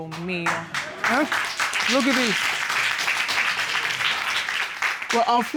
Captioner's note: applause